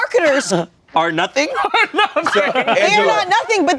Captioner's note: laughs